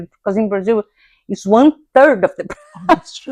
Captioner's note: laughs